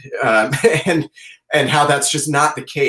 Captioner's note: chuckles